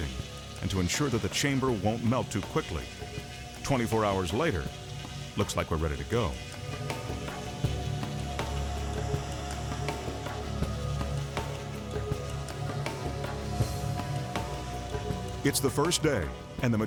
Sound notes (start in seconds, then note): 6.6 spray hissing; 6.6 tense music